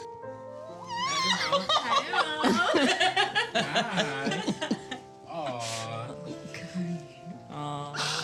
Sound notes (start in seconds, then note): 1.2 all laughing